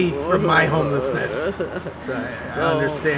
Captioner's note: laughs